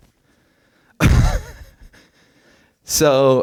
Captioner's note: laughs